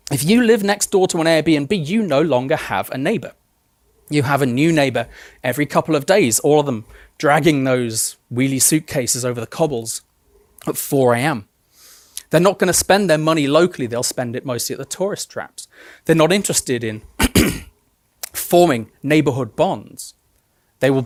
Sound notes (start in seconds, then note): 17.2 throat clearing